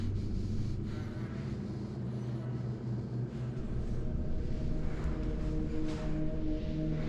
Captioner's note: Chris breathing heavily